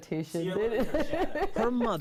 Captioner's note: laughing